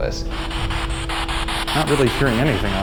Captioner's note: rapid bursts of static